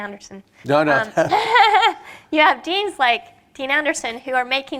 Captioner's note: laughs